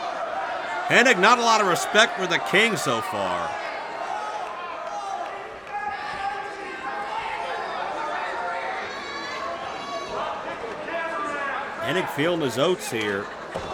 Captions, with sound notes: Hennig, not a lot of respect for the King so far. (crowd yells) Hennig feeling his oats here.